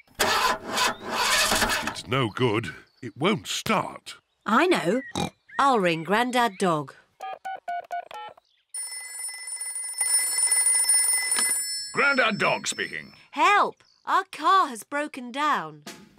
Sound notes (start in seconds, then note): 0.1 engine sputters; 5.1 snorts; 7.2 buttons beeping; 7.2 phone rings